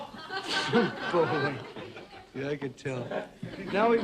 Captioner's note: crowd laughs